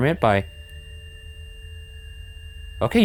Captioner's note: device beeps